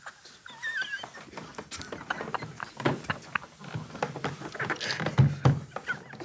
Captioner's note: group quietly snickering continues